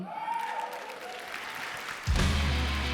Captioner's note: applause & cheering